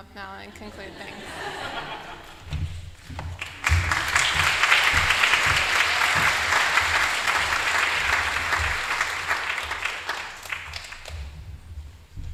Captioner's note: laughter